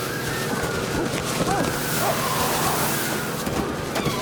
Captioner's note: Hatfield yells